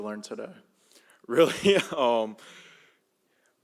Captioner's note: laughs